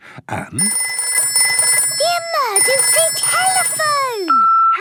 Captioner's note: phone ringing; answering machine